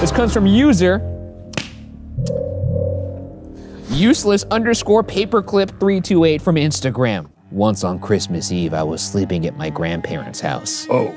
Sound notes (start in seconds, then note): 1.7 firewood popping; 7.0 somber violin music